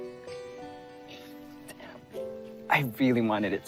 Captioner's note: sighs